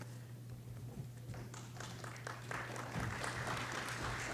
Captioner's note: applause